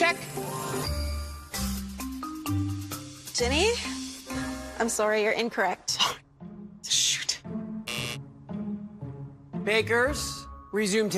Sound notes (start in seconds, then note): 7.8 buzzer sounds